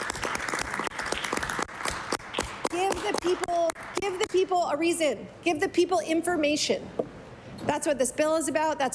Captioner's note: applause